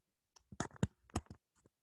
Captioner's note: typing